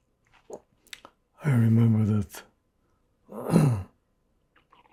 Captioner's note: clears throat